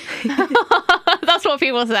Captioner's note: laughter